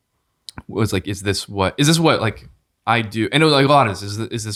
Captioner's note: stammering